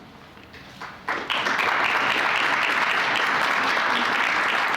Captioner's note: applause